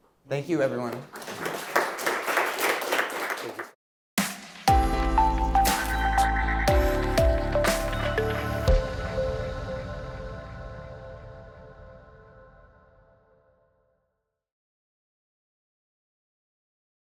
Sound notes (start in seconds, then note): 0.8 audience applauding; 4.6 bright music; 8.8 gentle music